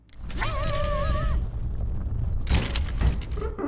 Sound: yells

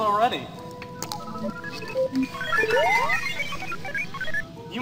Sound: beeping and chirping

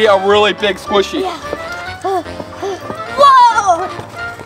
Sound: panting

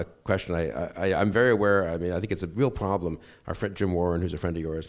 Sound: stutters

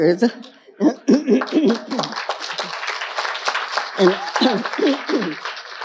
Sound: audience laughing and applauding

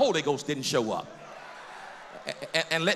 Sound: cheers

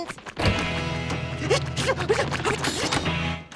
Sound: panting

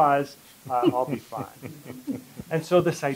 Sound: laughter

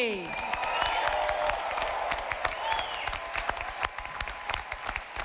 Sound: audience applauding

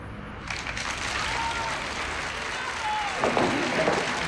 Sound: people clapping

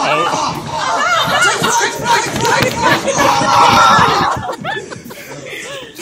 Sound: general shouting and laughter

